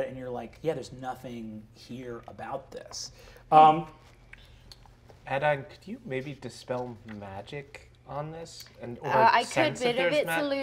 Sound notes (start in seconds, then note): none